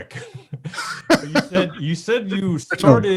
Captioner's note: chuckles